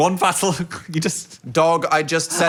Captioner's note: laughs